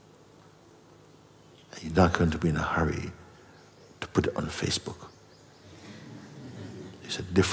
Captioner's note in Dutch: gelach